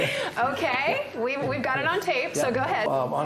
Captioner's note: both laugh